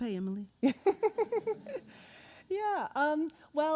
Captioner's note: laughing